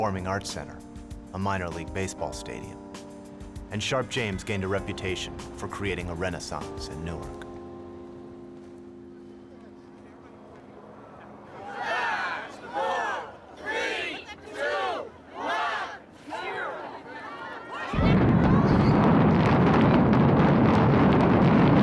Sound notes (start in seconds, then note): 12.1 crowd; 17.9 explosion